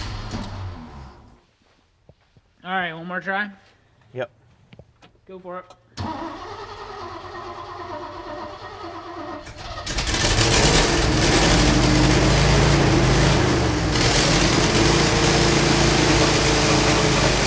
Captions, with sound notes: - All right, one more try? - Yep. - Go for it. (engine sputtering) (engine turning)